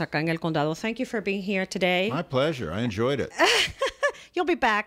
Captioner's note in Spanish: Hablando ingl\s